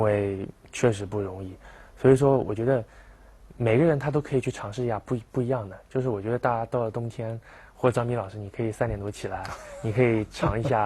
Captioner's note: laugh